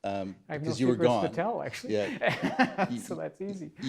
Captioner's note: laughs